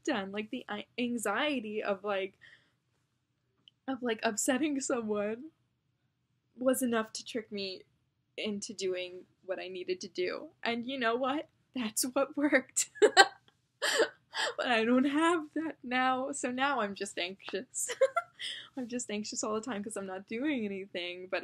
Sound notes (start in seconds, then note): 12.4 laughs yet again; 17.9 giggles